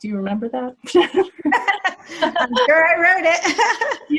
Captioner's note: laughter; laughing